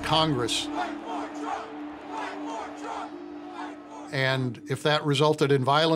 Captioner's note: chanting